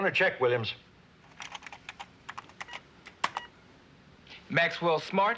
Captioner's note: keys clicking